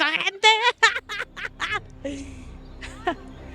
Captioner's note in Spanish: Risas